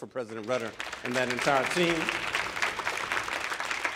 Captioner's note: audience applauding